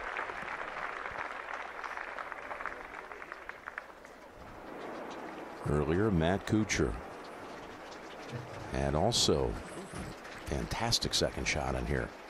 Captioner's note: applause